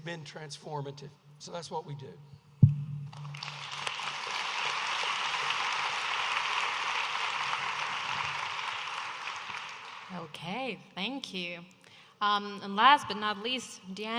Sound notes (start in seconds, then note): 3.1 audience applauding